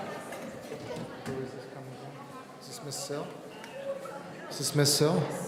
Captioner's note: people in the audience conversing